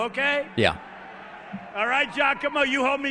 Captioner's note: crowd cheering